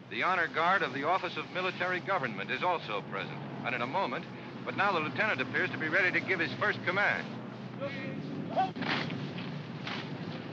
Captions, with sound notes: The honor guard of the office of military government is also present, and in a moment-- but now the lieutenant appears to be ready to give his first command. (officer shouts command)